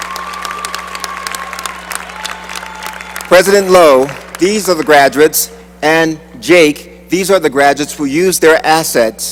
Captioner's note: cheering and applause